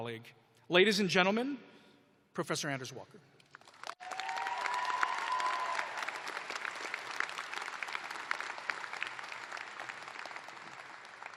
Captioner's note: cheers and applause